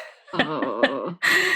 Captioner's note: groans